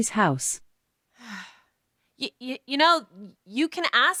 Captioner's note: sighs